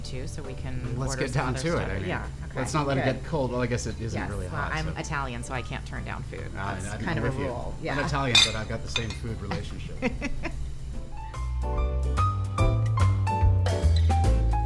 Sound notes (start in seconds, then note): 9.5 laughs; 10.8 smooth jazz music